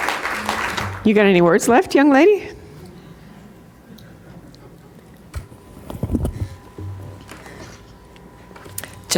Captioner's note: applause